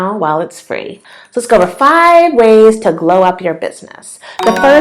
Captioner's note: bell sound